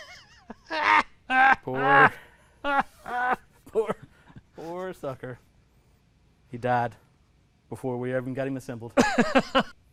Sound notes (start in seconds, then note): 2.6 laughing